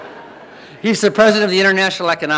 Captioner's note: audience laughing